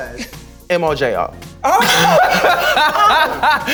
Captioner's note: laughing